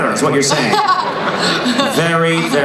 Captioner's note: laughing